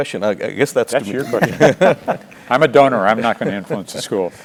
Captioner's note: laugh